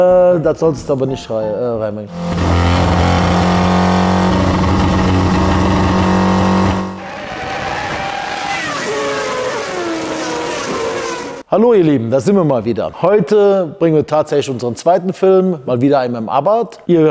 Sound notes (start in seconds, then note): 2.2 engine sound